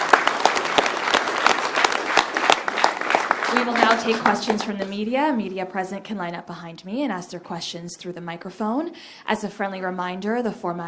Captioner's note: applause